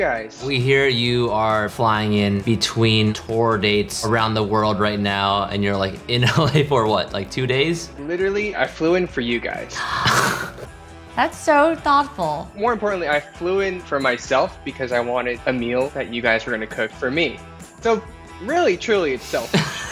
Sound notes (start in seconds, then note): 9.7 gasps; 19.3 laughs